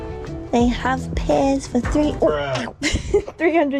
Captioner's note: bonk